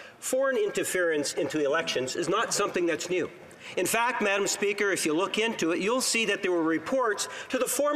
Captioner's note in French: voix de l'interprète